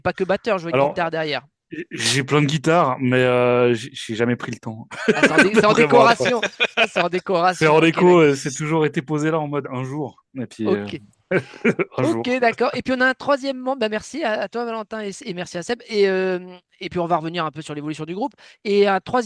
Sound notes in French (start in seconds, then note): 11.3 rires